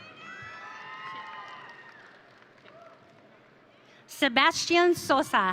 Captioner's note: audience cheering